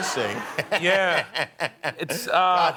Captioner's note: laughing